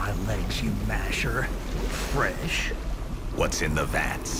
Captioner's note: liquid bubbling